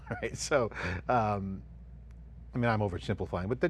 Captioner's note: chuckling